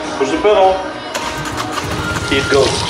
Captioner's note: engine starts